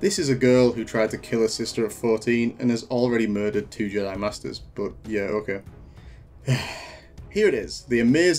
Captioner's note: sigh